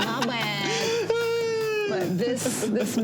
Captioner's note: laughs